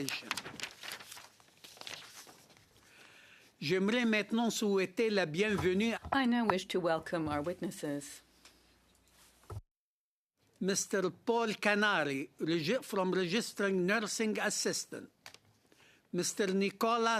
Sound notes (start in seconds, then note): 10.0 speaking French